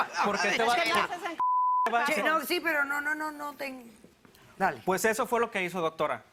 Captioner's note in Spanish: Bip; Hablan al unísono